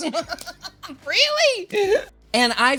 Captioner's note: laughing